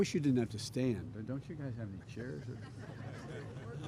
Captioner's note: laughter